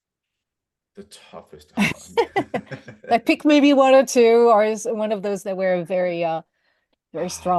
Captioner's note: laughter